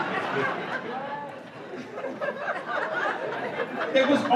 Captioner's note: laughter